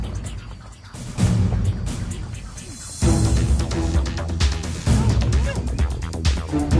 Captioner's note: struggling